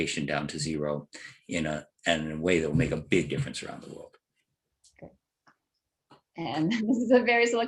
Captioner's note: laugh